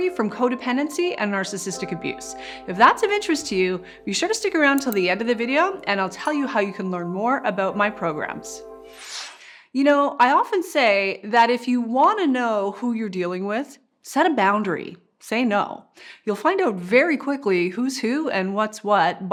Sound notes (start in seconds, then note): 8.8 whooshing